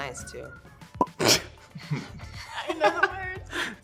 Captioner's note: laugh